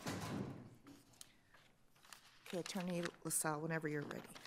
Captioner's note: door thuds shut